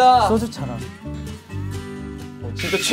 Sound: haha

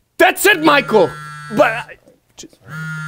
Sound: cell phone buzzing

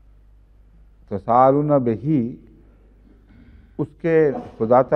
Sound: Arabic

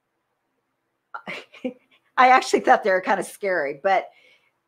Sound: chuckles

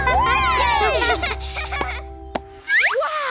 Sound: laughing

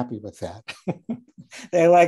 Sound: laughing

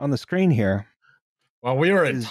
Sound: faint rhythmic squeak

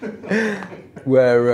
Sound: all laugh

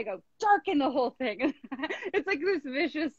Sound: laughing

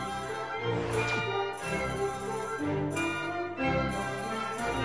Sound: audience applauding

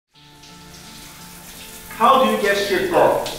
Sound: water splashing

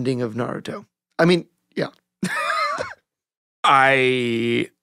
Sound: laughing

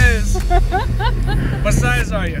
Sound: laughing

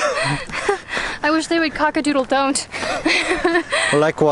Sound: laughing

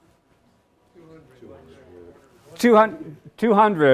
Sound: audience chattering indistinctly

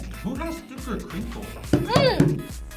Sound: hand banging against table

